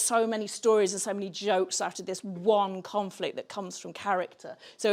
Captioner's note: none